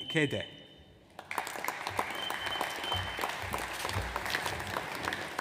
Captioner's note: audience applauds